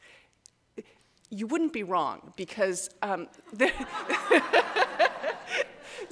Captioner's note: audience laughs